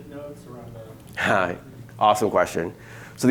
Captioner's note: murmurs